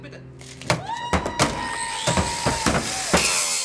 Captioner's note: cheering, buzz saw noise